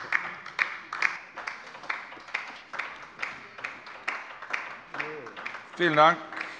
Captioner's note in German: Beifall bei der LINKEN